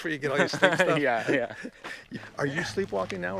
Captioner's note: both laughing